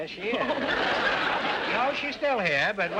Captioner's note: audience laughter